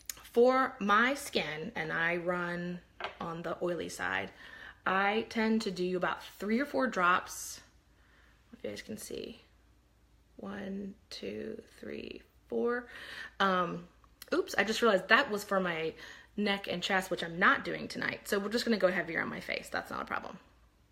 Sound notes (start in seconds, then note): none